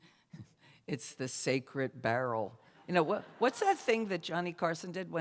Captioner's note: laughter